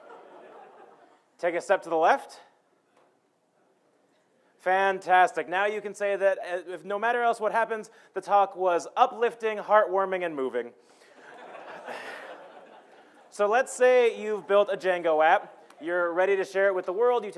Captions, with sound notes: (laughing) Take a step to the left. Fantastic, now you can say that if no matter else what happens, the talk was uplifting, heart warming and moving. (laughing) So let's say you've built a Django app. You're ready to share it with the world,